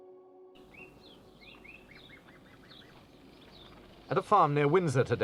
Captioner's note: birds chirping